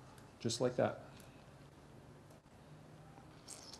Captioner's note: pause